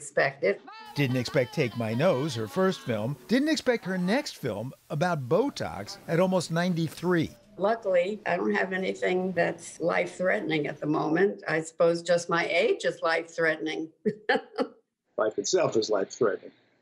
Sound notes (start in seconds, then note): 14.0 laughter